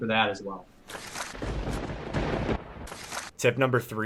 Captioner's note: thunder bangs